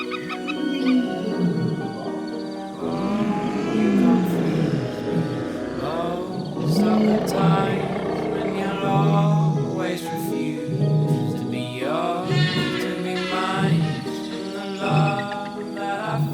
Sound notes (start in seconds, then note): 2.8 wild animal sounds; 11.2 dinosaurs roaring